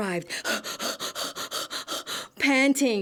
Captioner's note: breathing super hard!!!